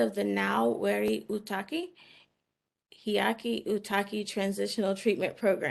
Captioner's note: speaking in foreign language